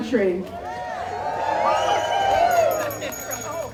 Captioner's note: cheers